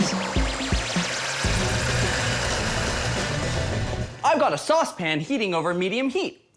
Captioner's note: blender whirring